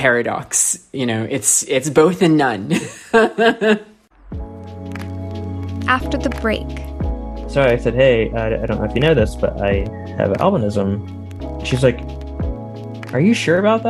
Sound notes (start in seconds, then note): 2.6 laughter